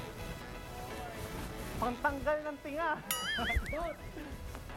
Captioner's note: laughs